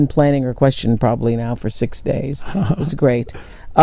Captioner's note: chuckles